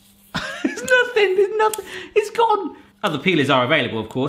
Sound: laughs

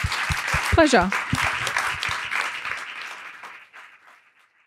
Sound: applause

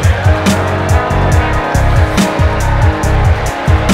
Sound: cheering

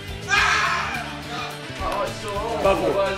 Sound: scream

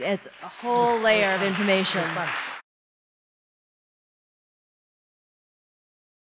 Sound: audience applause

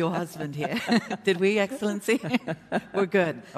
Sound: laughter

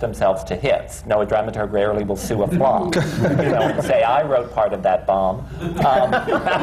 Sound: laughter

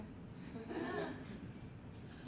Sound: laughter from the audience

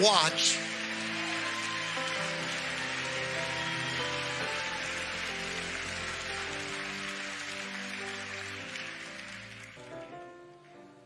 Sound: congregation cheering and clapping

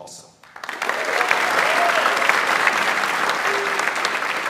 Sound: audience applauds

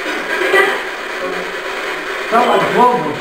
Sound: spirit box white noise

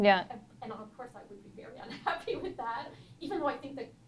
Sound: laughs

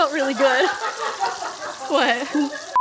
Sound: laughing

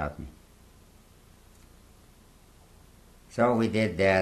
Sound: pauses for 3 seconds

